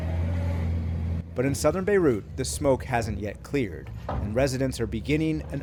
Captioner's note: voice-over